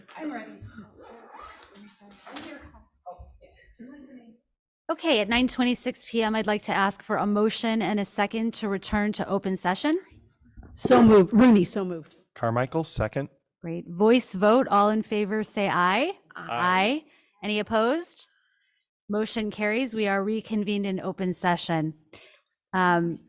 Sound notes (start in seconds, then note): 1.5 board members chatting; 10.1 whispering